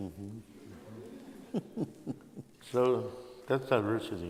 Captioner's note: laughter